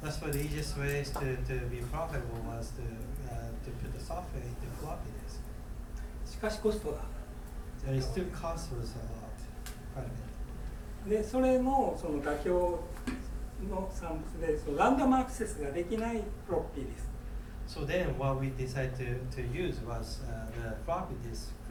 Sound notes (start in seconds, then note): 1.0 rattling; 6.5 speaking in foreign language; 11.1 speaking in foreign language